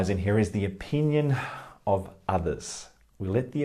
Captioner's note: sighs